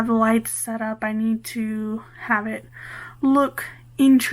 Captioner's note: none